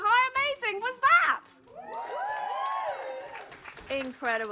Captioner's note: applause